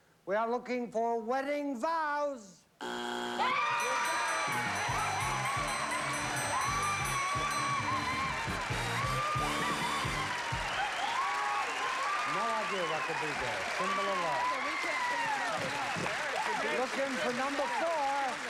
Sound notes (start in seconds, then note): 2.8 buzzer; 4.9 screaming and cheering